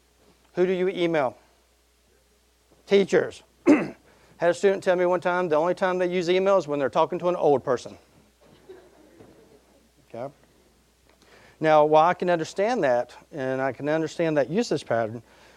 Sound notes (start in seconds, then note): 3.6 clearing throat; 8.5 audience laughing